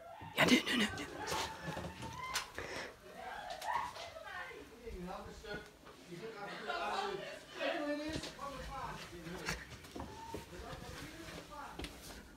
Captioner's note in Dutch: geschreeuw beneden waar verdenkt